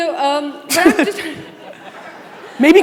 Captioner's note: audience laughing